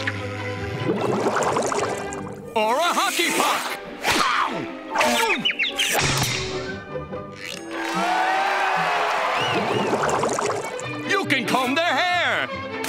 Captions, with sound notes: Or a hockey puck! [yelling] [cheering] You can comb their hair!